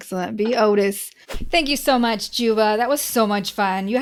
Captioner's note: whooshing sound